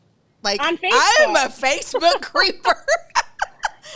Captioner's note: laughs